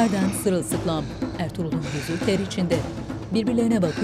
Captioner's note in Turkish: Nefes sesi